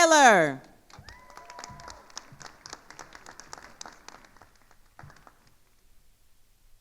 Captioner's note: attendees cheering and applauding